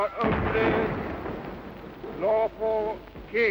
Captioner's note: cannon booming